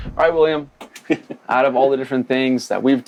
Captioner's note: laughs